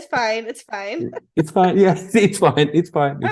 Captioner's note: laughing